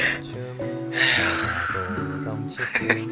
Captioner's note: sigh